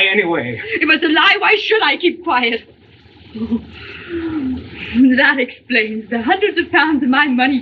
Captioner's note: shudders